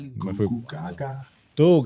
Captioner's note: speaking In Foreign Language